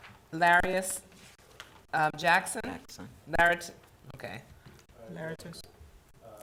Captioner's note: talking quietly